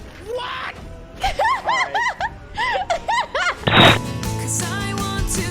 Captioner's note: laughing